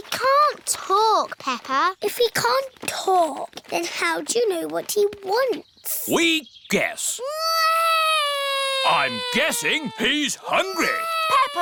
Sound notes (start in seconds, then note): 8.5 alexander wails